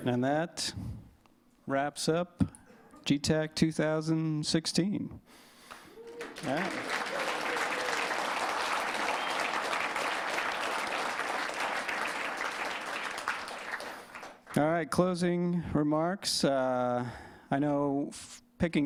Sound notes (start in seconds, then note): 7.7 applause; 16.4 cheers and applause